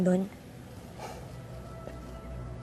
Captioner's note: sighs